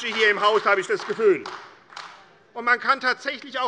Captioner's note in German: Beifall AfD